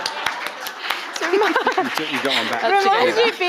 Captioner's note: audience laughing; audience applauding